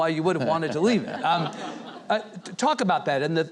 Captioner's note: audience and chuckling